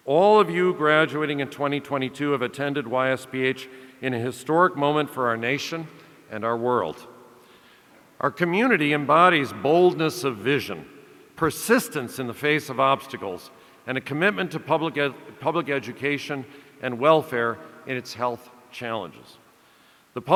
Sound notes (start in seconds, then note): none